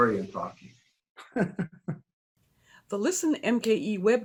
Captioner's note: laughs